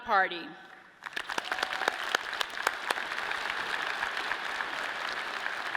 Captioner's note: audience claps and cheers